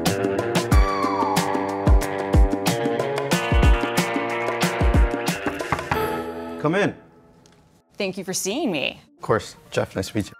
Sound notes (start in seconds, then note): 5.4 knocking at door